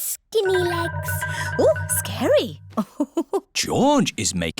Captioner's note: laughs